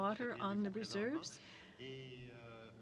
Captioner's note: speaking French